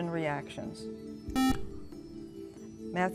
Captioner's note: buzzer